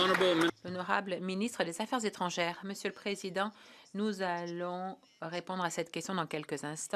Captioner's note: some Applause